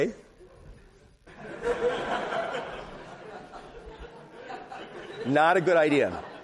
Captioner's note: laughter